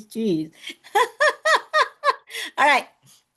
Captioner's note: laughs